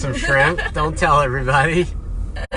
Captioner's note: laughs